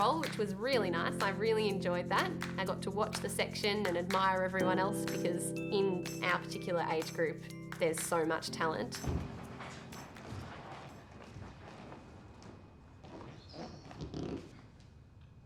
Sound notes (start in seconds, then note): 8.8 floor thudding